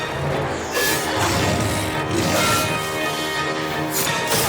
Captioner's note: groaning